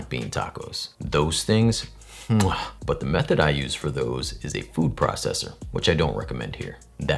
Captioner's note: kiss sound